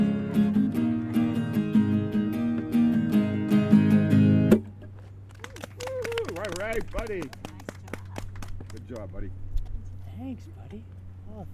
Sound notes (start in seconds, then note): 5.3 applauding and cheering